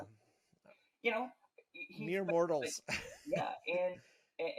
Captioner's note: laughing